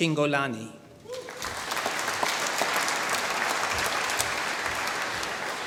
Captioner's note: applause